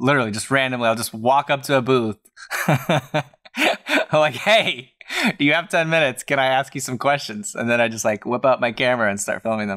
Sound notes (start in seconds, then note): 2.4 laughter